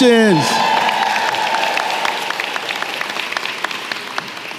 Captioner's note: applause